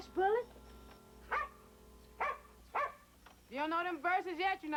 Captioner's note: dog barking